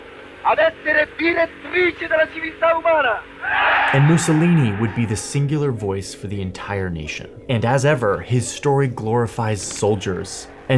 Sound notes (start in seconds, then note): 3.4 crowd cheering